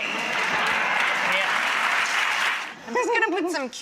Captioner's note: audience laughing and applauding